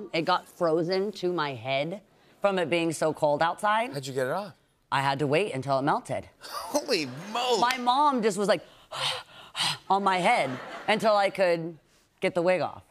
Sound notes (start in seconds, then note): 8.6 heavy breathing